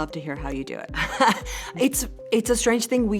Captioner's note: laughing